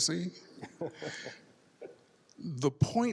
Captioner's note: laughs